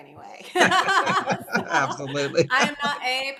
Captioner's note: all laugh